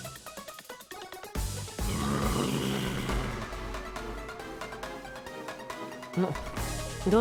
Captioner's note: growling